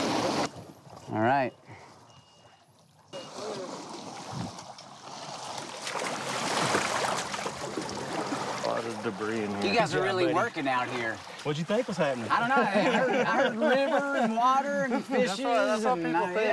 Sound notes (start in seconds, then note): 3.1 water rushing; 12.3 laughs